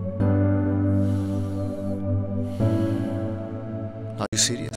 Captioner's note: Aniket sighing